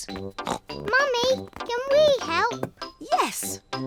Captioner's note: snorts